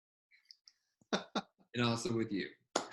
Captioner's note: laughing